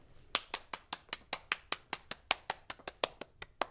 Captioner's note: teacher clapping